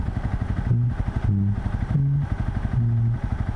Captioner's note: hums